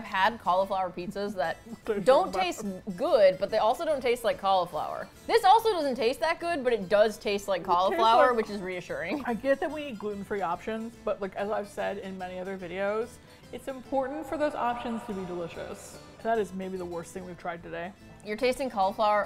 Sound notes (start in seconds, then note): 9.0 laughs; 13.0 amplified